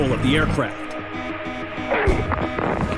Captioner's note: beeping rapidly